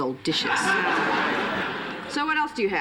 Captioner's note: laughter